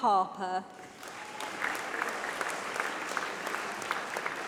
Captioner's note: applause